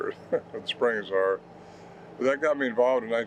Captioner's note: chuckles